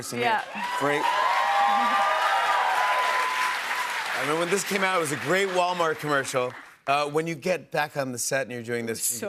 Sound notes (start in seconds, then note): 0.1 cheers and applause